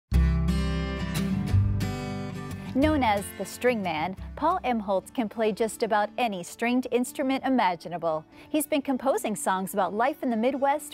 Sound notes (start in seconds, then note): 0.1 bright music; 2.9 voiceover